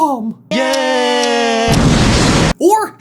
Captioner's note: tick tick tick tick; explosion